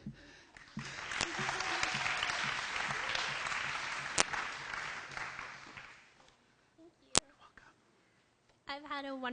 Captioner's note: applause